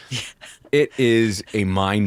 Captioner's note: laughing